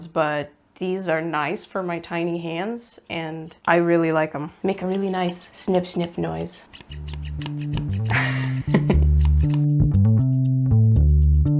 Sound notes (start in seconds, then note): 7.5 scissors go snip snip as music fades in + a menacing giggle